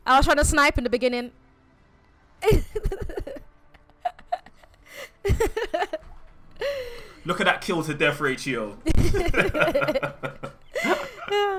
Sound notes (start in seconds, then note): 3.6 laughs; 8.9 laughter